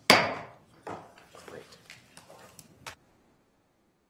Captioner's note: gavel bangs